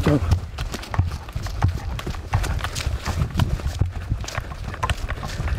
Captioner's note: panicked footsteps running